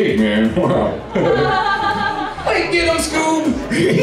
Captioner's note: laughter